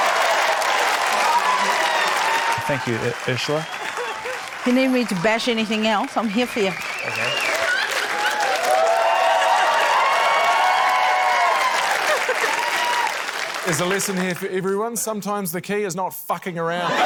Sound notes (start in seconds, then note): 0.1 cheering, applause; 9.1 cheering, applause